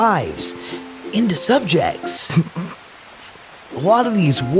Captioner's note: laughs